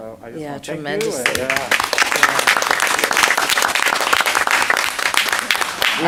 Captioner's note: applause